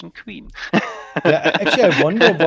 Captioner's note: laughing